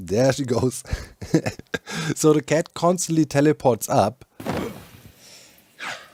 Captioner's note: laughs